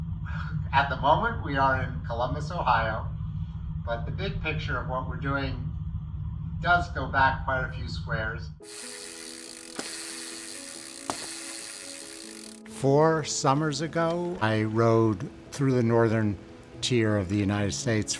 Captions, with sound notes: - At the moment we are in Columbus, Ohio, but the good picture of what we're doing does go back by a few squares. (bicycle chain whirring) (soft gentle music) Four summers ago, I rode through the Northern tier of the United States